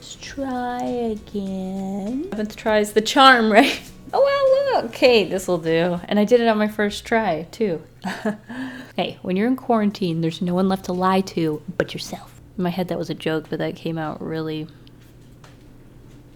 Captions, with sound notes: Let's try again, 7th try is the charm, right? Oh, wow, look! Okay, this will do and I did it on my first try too. [Laughs] Hey when you're in quarantine, there's no one left to lie to but yourself. In my head that was a joke, but that came out really...